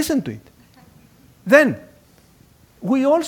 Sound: laugh

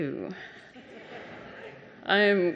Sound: laughing

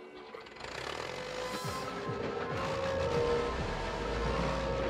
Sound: diesel engine rumbling

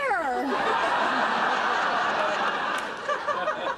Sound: audience laughter

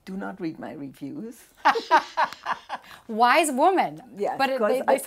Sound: laughs

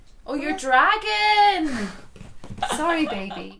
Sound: laughs

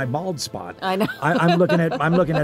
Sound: chuckles

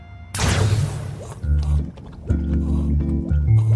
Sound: slurping; peaceful music playing

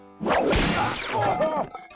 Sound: grunting

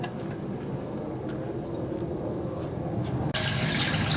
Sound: plane passing sound

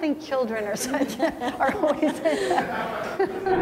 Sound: laughing

